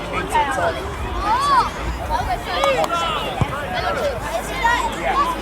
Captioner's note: anxious chatter